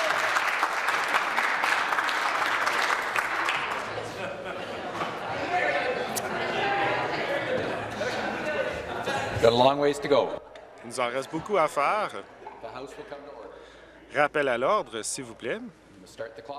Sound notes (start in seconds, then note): 3.0 person shouting; 3.9 applause